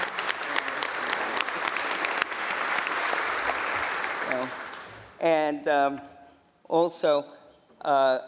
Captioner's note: applause